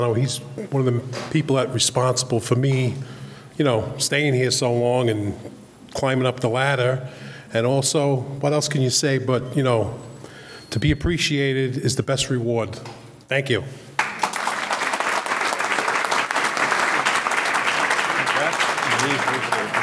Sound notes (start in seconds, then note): 13.9 audience clapping